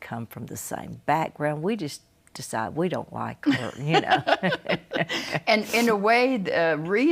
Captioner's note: both laugh